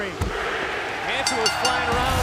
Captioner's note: bell ringing